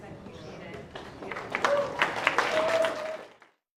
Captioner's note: applause